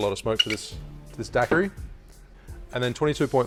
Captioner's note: lid squeaks